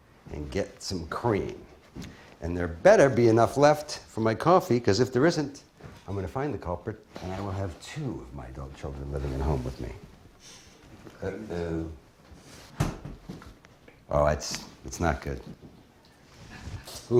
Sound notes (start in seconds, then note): none